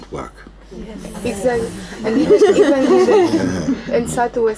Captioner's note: laughter